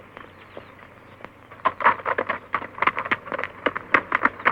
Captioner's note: hooves clopping